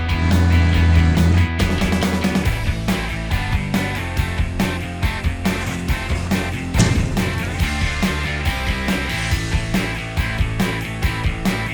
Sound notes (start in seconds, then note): 5.5 loud bang over music